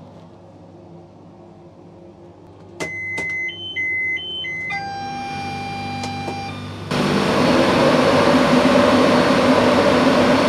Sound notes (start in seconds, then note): 2.8 train beeps; 6.9 fans roar